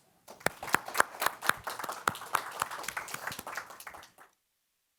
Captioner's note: attendees applauding